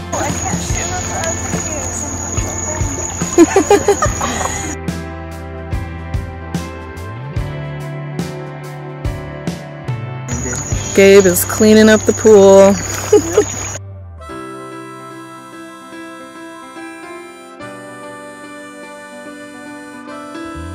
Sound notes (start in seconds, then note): 3.3 group laughing; 12.9 chuckles